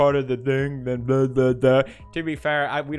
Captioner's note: rambling